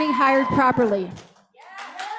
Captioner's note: cheers, applause